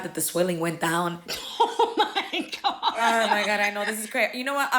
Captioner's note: laughing